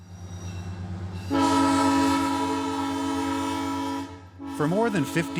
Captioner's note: train horn blaring